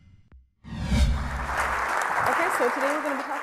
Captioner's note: applause